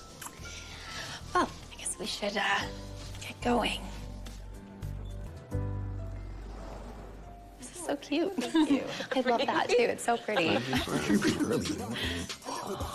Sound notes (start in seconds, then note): 9.9 indistinct chatter